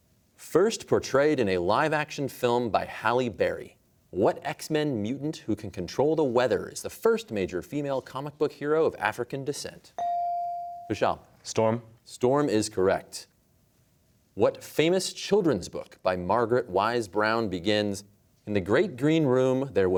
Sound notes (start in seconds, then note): none